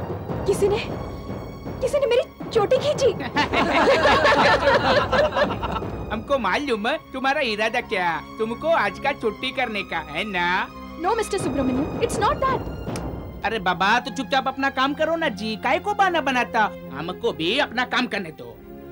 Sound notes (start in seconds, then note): 3.3 everybody laughing